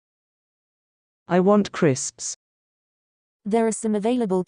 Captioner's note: Proloquo2Go voice